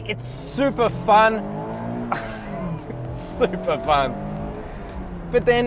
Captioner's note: laughs